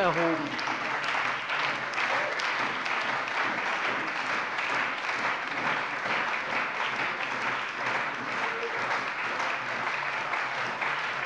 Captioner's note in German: Lang anhaltender lebhafter Beifall bei der CDU und dem BÜNDNIS 90/DIE GRÜNEN!